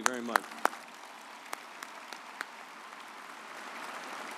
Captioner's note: audience applauds